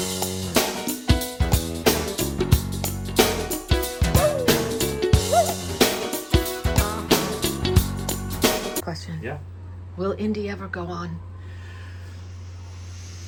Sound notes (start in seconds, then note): 4.0 dog yelps